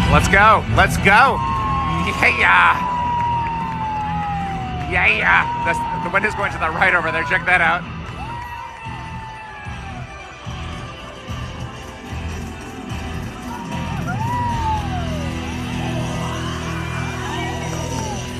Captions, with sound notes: Let's go, let's go. Yay, yeah! Yay, yeah! The wind is going to the right over there. Check that out. (cheers and clapping) (upbeat music) (cheers)